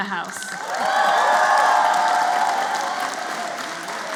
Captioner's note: applause